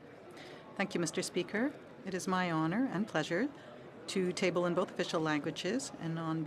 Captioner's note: speaking French